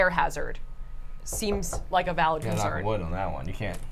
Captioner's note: knocking on wood